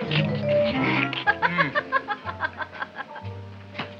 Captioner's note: Audrey laughs